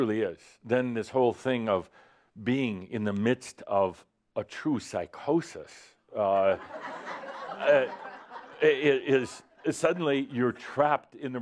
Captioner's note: laughter